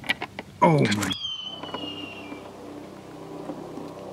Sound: hawk screeches up above

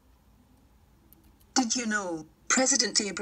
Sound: female voice

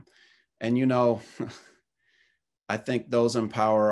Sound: chuckles

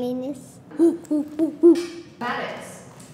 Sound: makes monkey noises

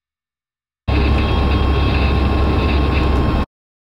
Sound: 52 MPH Target Tone

